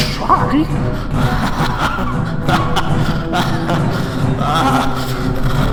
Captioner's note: laughs fearfully